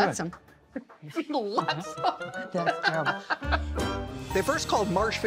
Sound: laughing

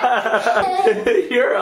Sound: people laughing

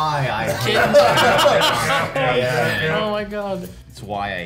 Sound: all laughs

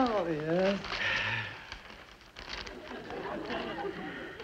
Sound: paper crackling

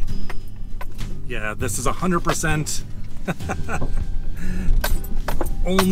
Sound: nervous laughter

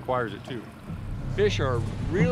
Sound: boat engine idling

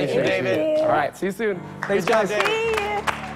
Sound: applause

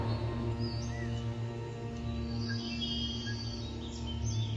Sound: jungle sounds

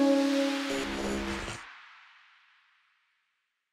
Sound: logo whooshing; inspiring music; logo buzzing

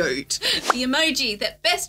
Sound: bubble popping

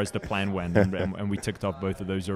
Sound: host chuckles

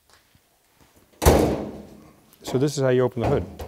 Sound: hood thudding

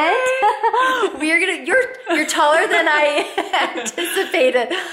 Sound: laughing

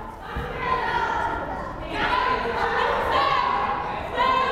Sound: crowd chattering

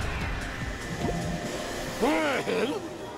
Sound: suction noises

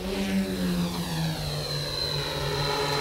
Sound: whirring

